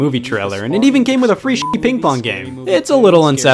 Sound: beep

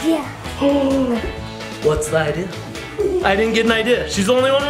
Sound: gasps; laughing

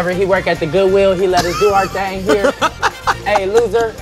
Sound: laugh

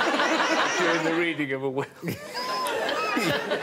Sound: all laughing

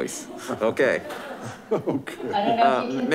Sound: laughing

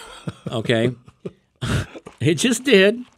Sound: hosts laugh

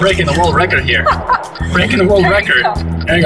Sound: laughs

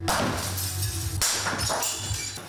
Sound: nat pops of objects getting smashed

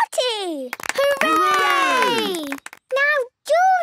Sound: cheering, clapping

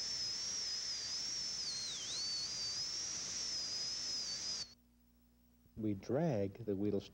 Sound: drilling

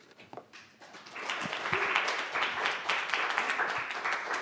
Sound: audience applauds

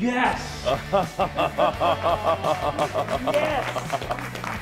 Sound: chefs clapping

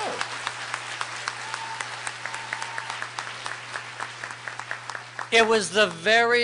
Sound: applause

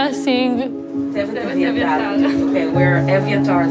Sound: indistinct chatter

